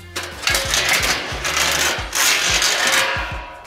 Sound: guard clanks

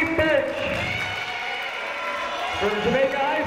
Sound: cheering

